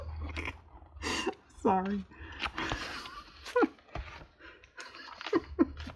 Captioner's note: laughs